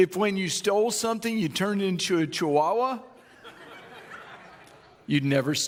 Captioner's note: audience laughing